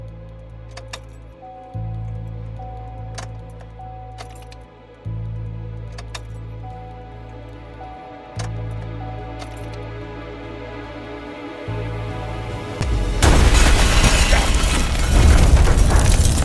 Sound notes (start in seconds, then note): 1.3 car dinging; 12.8 explosion booms